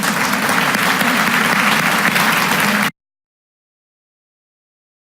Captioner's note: audience applauding